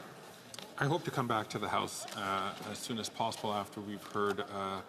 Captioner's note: some Applause